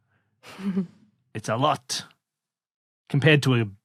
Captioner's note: snickers